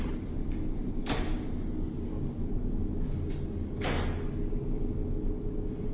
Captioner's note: loud thump